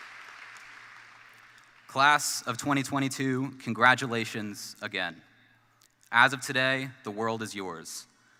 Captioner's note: applause